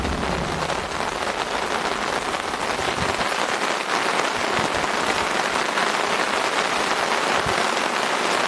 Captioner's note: torrential rains